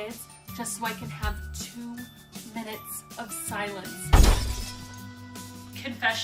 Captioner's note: crash noise